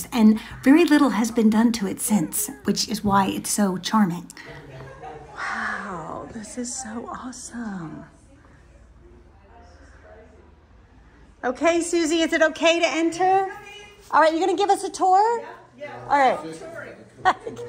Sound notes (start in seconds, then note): 4.8 people chattering; 8.0 people chattering; 17.2 laughing